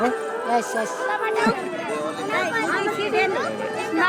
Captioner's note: mixed chatter